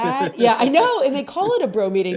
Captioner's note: laughs